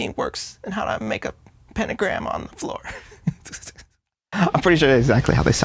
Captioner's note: chuckles